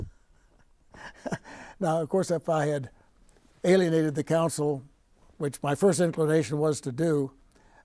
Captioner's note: laughing